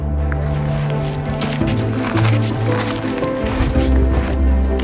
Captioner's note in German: Schritte und Musik